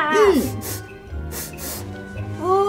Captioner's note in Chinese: 嗅聞聲